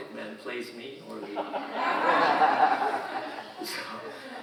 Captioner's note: audience laughing